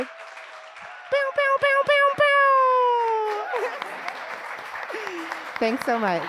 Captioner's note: audience clapping; laughs